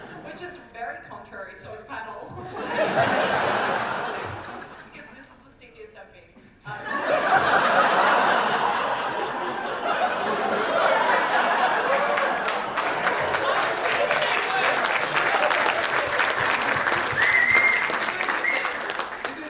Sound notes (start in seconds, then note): 2.4 audience laughter; 6.7 big audience reaction; 13.3 more cheering and applause